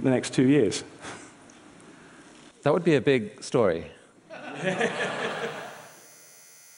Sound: laughs

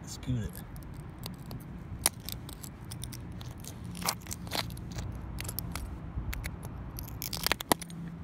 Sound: glass crunching

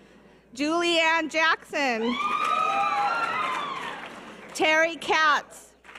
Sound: audience cheers

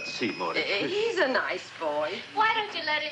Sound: stammers

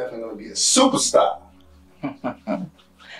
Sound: Brandon laughs

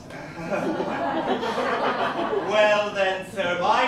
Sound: laughter

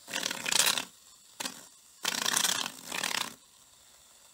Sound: aerosol can sputtering

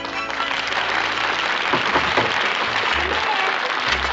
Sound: knocking on door

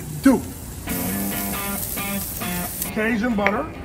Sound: steaks sizzling; rousing music

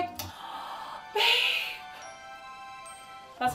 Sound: gasping

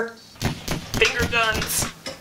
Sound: gun shots

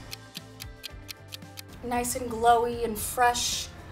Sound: clock ticks

